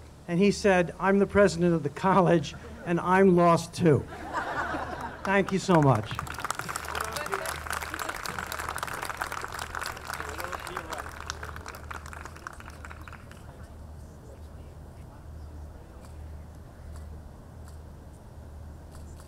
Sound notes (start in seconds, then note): 4.0 audience laughing; 6.7 audience clapping